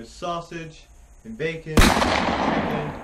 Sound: gunshot

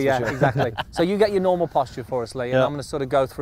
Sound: laughs

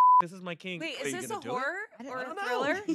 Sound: beep

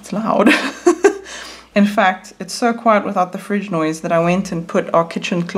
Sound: laughs

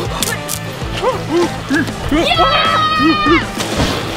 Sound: panting heavily; Bigfoot yells; screaming

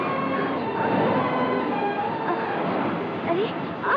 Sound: water Waves Sound

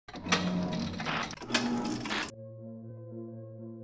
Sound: film strip clicking; gentle expectant music

